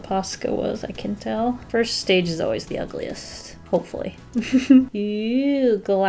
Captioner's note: soft chuckle